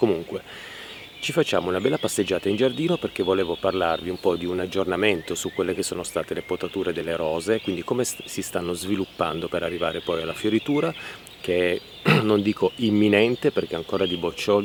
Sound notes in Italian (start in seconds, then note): 12.0 schiarire la voce